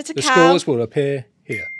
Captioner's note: bell dings